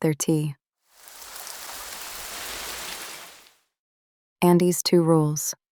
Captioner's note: water Running